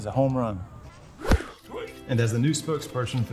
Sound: air whooshing

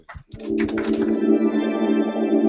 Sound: applause

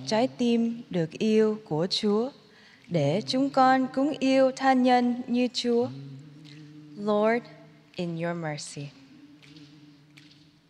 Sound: speaking in spanish

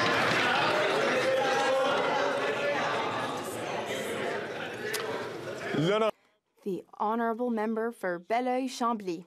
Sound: applause

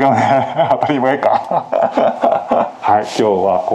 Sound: laughs

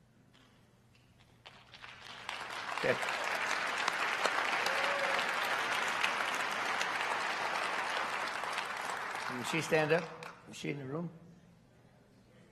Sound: applause

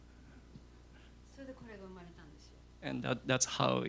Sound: non-english speech

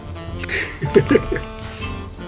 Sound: laughs

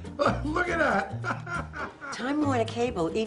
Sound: laughs

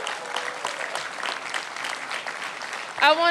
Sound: applause

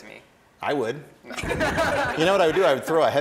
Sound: contestants laughing

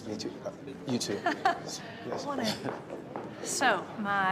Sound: laughs

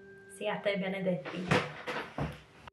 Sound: speaking in foreign language

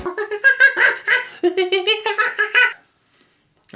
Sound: monkey sounds

